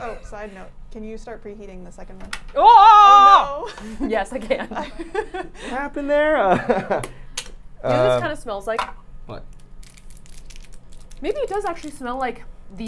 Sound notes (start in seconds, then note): 5.0 laughing; 6.7 lid thudding